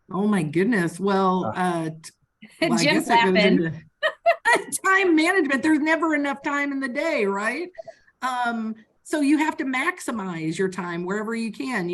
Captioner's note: laughing